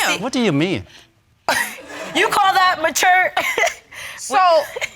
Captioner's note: chuckling